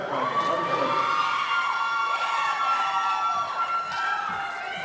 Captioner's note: audience applauding